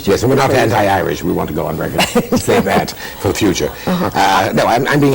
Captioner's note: laughter